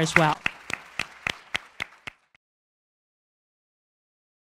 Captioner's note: audience applauding